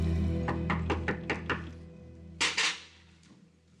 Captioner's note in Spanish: toques en la puerta